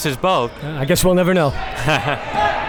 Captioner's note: laughs